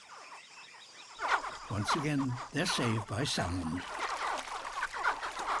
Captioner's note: honk and chitter